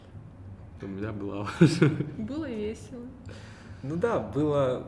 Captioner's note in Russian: смеётся